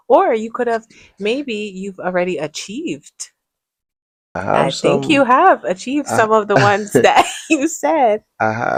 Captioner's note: laughter